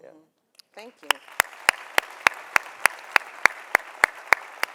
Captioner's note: audience applauding